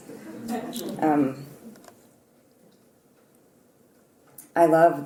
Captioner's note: laugh